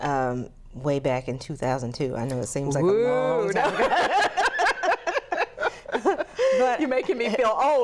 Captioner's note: laughter